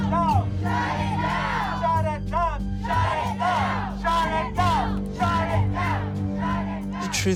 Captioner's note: all chanting